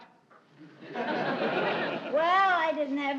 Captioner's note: audience laughing